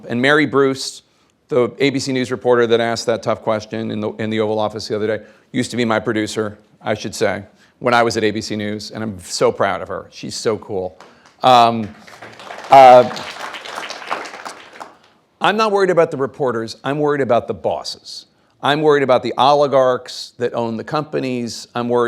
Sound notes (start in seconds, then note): 10.9 audience clapping